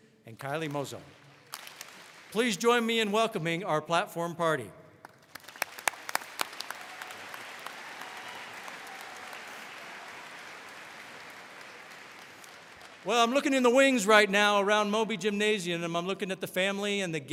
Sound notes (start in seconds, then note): 5.1 audience applauds